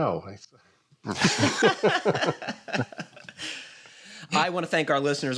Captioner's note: laughter